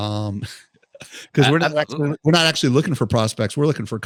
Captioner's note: chuckles